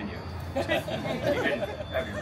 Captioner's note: guests chuckling